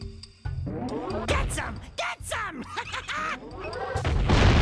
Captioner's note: laughs